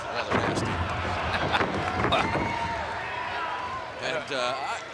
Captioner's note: laughs